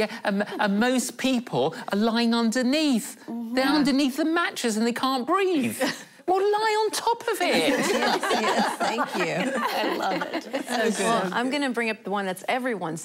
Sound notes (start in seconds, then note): 7.6 laughing